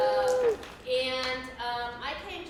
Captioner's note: crowd cheering